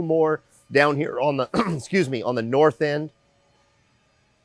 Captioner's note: clears throat